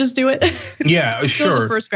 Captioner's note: laugh